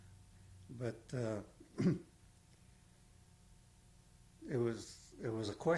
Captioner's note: pauses for 3 seconds